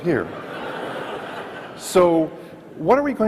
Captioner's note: audience laughs